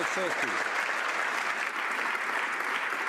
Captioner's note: some Applause